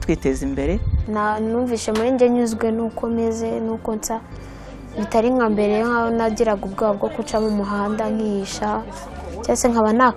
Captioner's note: speaking in Kinyarwanda